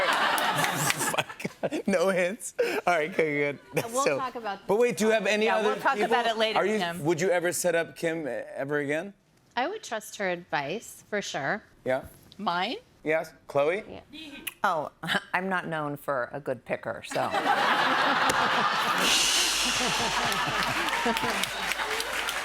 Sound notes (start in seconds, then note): 17.1 laughter; 18.7 applause